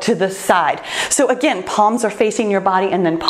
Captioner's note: timer beeps